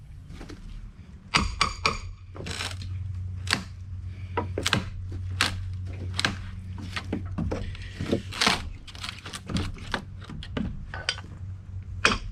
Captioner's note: crunchy lumber noises